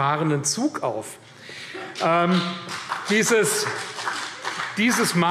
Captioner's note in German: Vereinzelter Beifall CDU und BÜNDNIS 90/DIE GRÜNEN